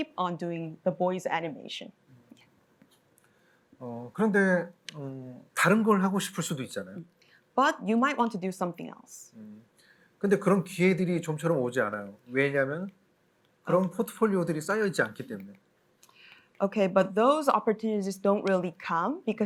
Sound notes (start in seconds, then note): 3.8 speaking korean; 9.9 speaking korean